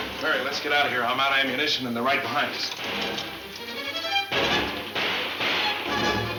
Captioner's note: dramatic music; guns banging